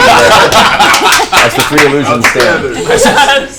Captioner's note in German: Gelächter